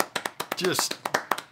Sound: round of applause

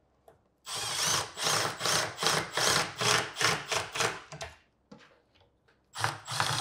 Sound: drill whirring and rumbling

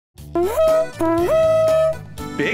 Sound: siren blares

